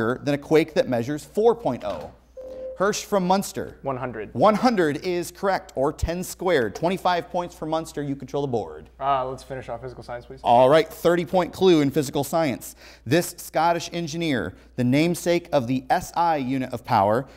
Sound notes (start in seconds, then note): 2.4 buzzer